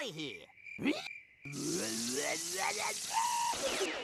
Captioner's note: snarling